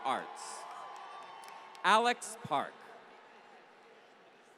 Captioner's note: applause